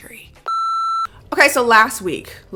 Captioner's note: beep